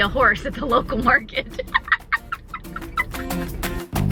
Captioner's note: laughs